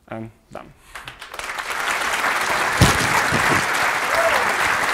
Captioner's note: applause